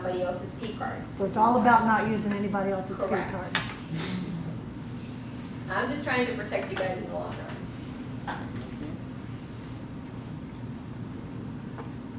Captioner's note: laughs